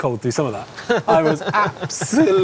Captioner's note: laughs